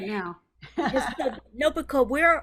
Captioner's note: laughs